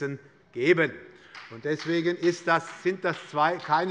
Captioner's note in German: Beifall